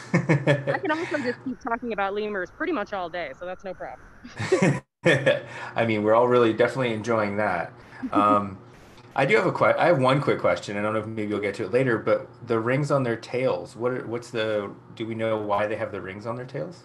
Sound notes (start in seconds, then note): 5.0 laugh